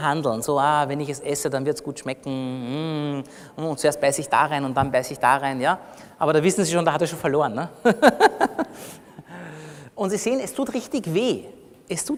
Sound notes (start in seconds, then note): 7.9 laughs